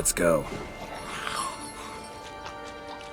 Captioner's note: fussing